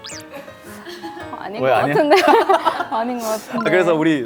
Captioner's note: haha